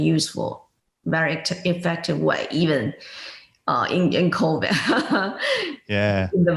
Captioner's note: laughs